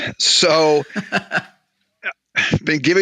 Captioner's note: laughs